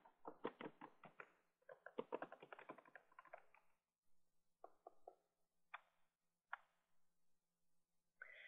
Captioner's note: typing Sounds